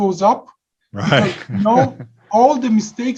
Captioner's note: giggles